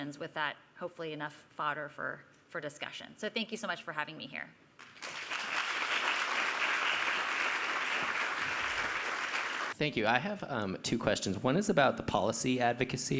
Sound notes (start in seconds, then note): 4.8 applause